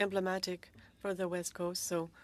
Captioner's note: speaking French